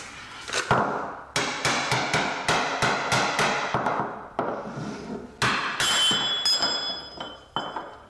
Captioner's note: hammer action